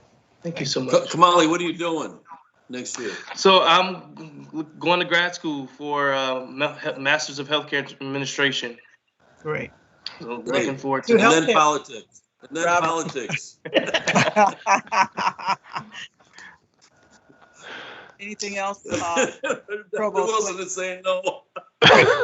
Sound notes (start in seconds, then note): 13.6 laughter; 21.6 laughter